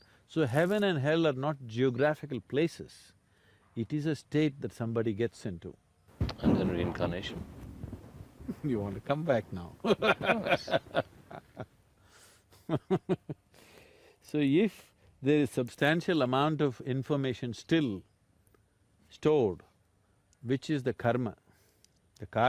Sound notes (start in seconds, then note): 9.8 laughs